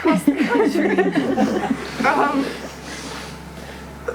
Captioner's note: laughter